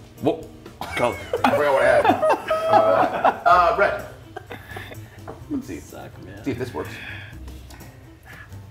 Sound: laugh

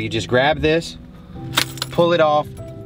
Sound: keys jangling

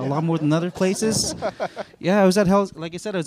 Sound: chuckles

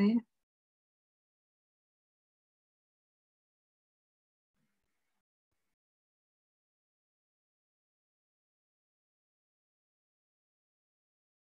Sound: silence

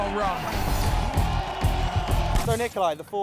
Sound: crowd cheering

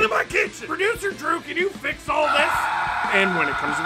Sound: screaming

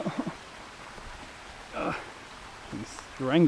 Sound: pathetic whimpering

